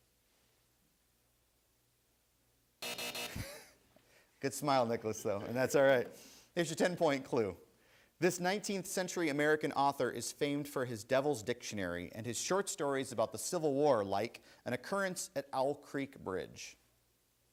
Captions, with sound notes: (buzzer sounds) (laughs) Good smile Nicholas, though. And that's alright, here's your 10-point clue. This 19th Century American author is famed for his Devil's Dictionary, and his short stories about the Civil War, like An Occurrence at Owl Creek Bridge.